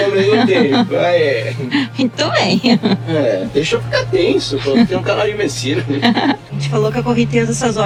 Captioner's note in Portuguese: risadas